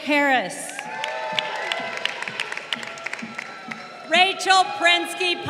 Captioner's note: crowd cheering